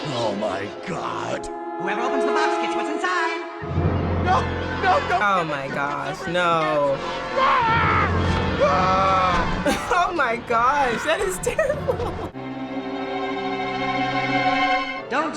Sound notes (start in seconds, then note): 7.3 screams; 9.6 chuckles; 12.3 ominous music